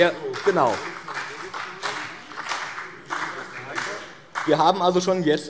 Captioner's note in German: Beifall BÜNDNIS 90/DIE GRÜNEN